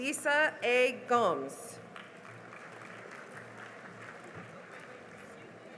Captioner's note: cheering and applause